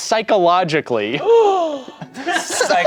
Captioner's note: gasps